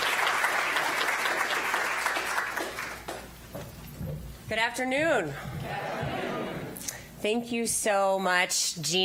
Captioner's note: applause